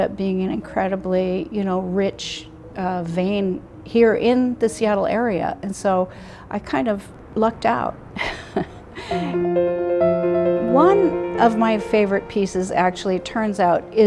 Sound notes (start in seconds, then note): 8.2 chuckles